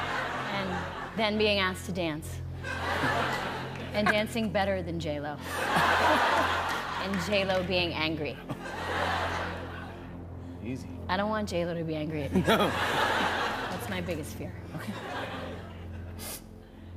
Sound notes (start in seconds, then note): 5.5 laughter; 12.4 chuckling